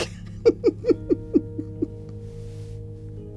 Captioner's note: laughing